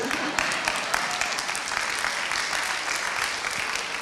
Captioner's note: applauding